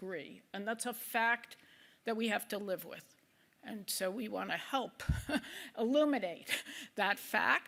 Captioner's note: laughs